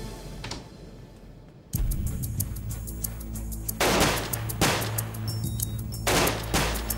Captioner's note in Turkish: Silah sesleri